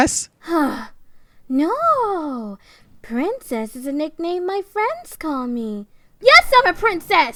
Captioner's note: Sarcastic